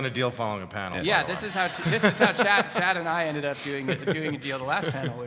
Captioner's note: laugh